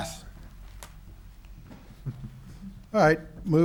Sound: chuckles

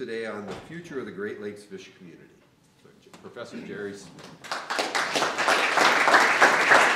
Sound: applause

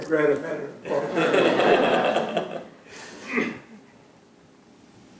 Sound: laughter

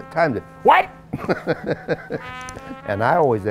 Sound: laughs

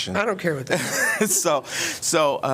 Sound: laughter

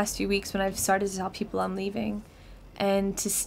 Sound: none

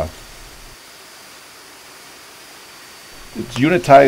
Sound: machine noise

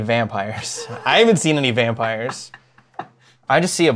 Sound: laughs

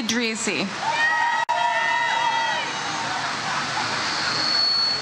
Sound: audience cheers

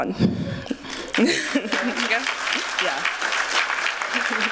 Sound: applause

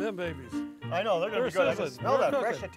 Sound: bouncy piano music; chattering

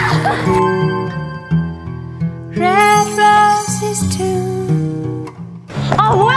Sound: giggle

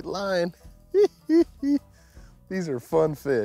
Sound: chuckling

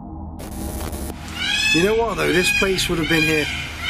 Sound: peacocks squawking

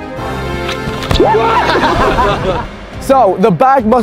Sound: men laughing

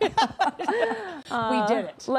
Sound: laughter

